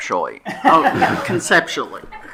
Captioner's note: attendees laughing